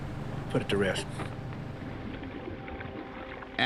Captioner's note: gentle music; water rippling